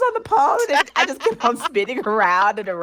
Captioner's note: laughter